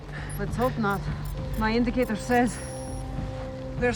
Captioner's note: device beeping